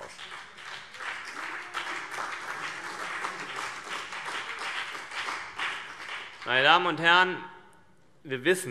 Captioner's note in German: Beifall CDU und BÜNDNIS 90/DIE GRÜNEN